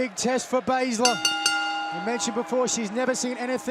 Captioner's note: bell ringing